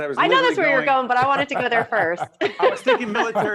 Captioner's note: laughing